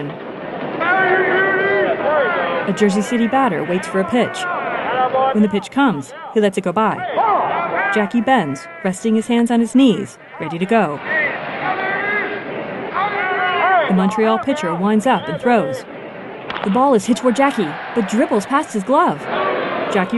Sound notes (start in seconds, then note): 7.0 indistinct shouts and cheers; 16.0 crowd cheering; 17.9 crowd booing